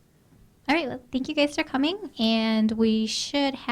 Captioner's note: voiceover